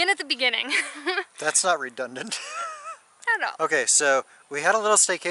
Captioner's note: laughter